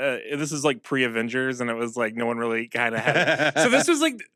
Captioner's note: laughs